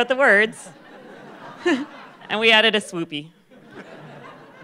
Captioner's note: laughter